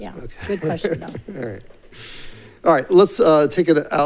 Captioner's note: laughs